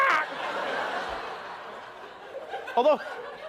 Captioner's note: squawks; laughter